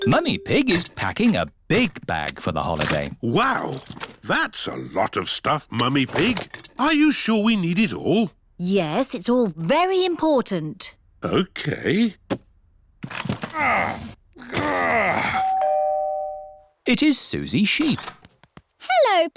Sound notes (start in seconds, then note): 14.3 groans; 15.3 doorbell rings